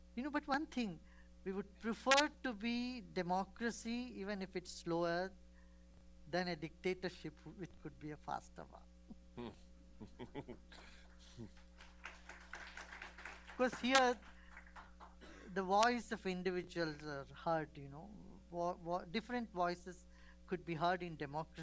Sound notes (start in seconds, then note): 11.4 applause